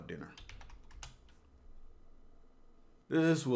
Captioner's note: typing